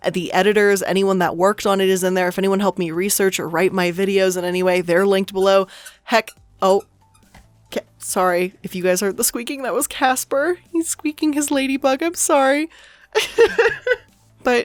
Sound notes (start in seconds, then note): 5.3 squeaking; 13.2 laughs